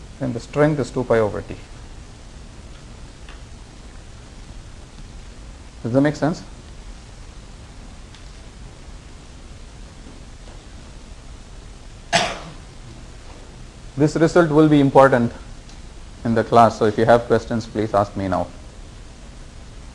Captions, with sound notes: And the strength is two pi over t. Does that make sense? (student coughs) This result will be important in the class, so if you have questions, please ask me now.